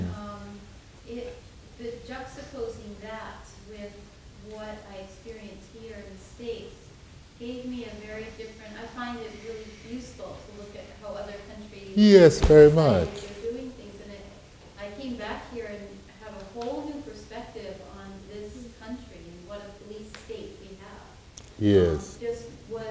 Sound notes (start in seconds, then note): 14.5 woman's Voice